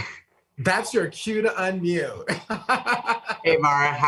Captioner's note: laughs